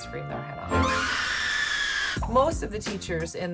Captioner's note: woman screaming